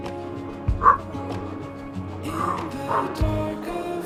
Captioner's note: dog growling